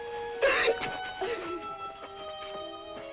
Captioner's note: sobbing